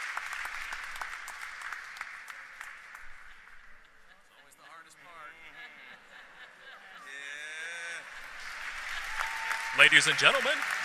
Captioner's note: applause